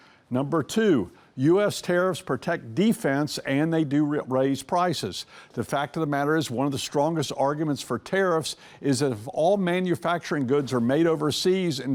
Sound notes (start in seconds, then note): none